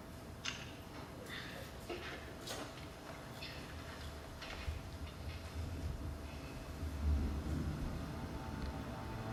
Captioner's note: child playing